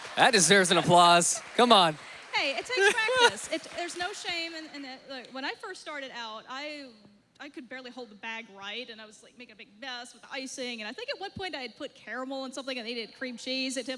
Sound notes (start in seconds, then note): 2.7 laughs